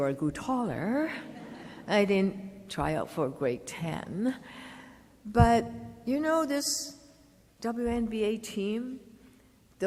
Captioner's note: laughter